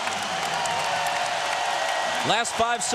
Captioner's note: crowd cheering